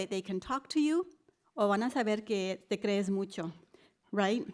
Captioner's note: spanish speech